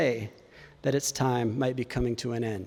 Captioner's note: none